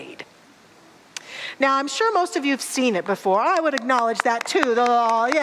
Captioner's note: audience applause